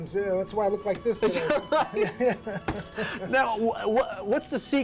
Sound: laughter

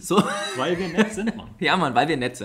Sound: laughs

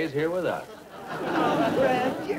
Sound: audience Laughing

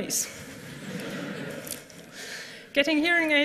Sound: laughter

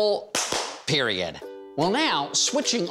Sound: claps

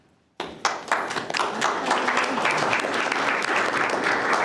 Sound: group applauding

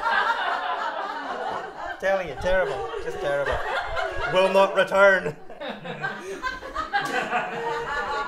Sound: laughter

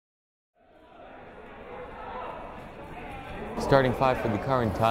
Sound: crowd chattering

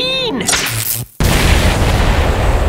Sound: explosion

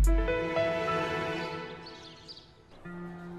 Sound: birds chirping

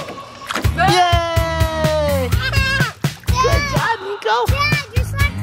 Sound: cheers

